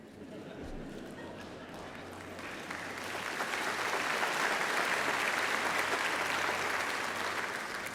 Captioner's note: laughter